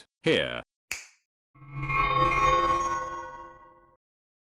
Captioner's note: a snap and magic sounds